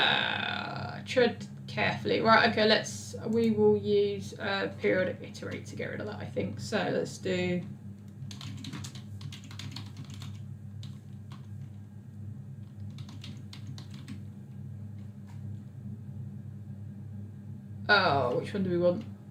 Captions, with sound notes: Tread carefully. Right, okay, let's, we will use a period of me to write to get rid of that I think, so, let's do. (keyboard clicks) Oh, it shouldn't be well.